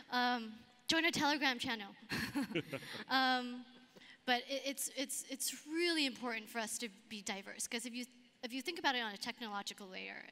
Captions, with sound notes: Join our telegram channel. (laughs) But it's really important for us to be diverse 'cause if you think about it on a technological layer,